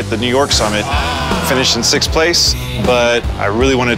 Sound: audience sighs

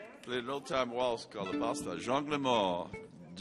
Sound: speaks Cajun language

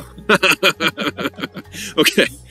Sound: laughing

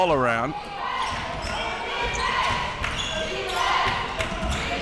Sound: crowd cheering

